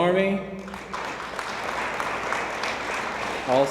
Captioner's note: audience applauds